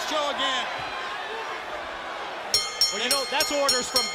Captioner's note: bell ringing